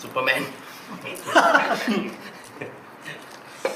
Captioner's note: OR KIA laughs